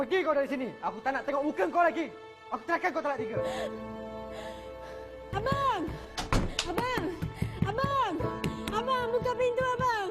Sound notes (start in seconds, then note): 0.1 speaking in foreign language; 3.4 woman gasps; 5.6 speaking in foreign language